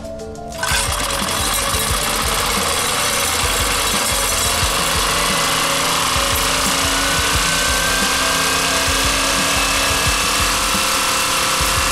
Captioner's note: the engine sounds